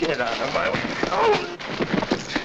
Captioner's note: punch lands